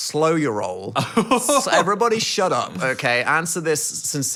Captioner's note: laughs